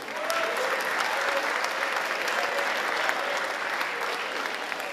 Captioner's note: audience applauding and cheering